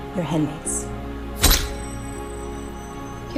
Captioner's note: camera flash goes off